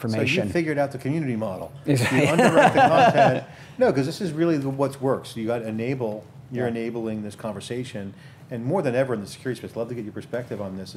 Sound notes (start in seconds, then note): 2.0 laughs